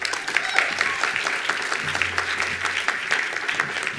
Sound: attendees applauding

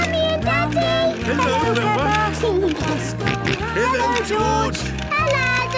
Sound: George giggling and snorting

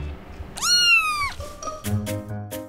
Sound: kitten meowing; bright upbeat music

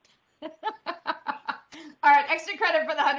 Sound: laughs

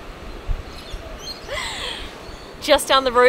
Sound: seagulls screeching

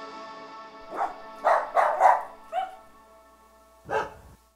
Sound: gentle music; dogs barking

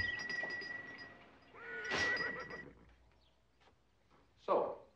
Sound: horse whinnying

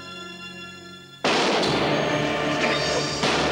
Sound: gunshot

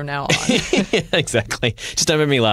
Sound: laughter

